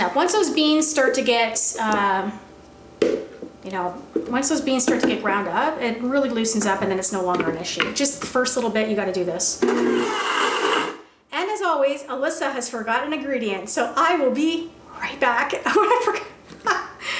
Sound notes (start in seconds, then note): 9.6 blender whirs; 15.3 laughs